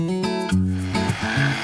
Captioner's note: tools buzz and whir